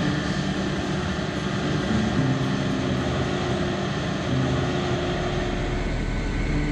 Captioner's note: combine running